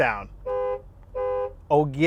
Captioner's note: car honking